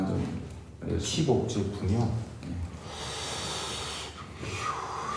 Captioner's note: speaking Korean